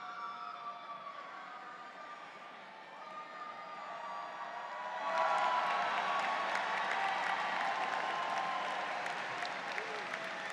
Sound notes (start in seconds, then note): 5.0 audience applauds